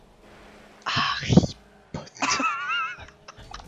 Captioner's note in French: Murmure toujours